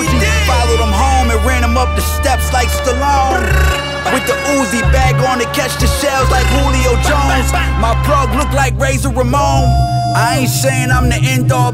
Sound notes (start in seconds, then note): 6.2 brr, bap, bap, bap